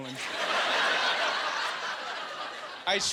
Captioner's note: laughing